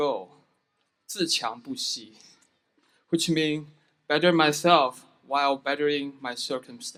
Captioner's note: speaking foreign language